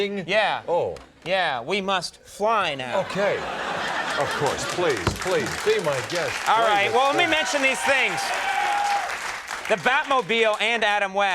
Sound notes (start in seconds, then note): 3.2 crowd applause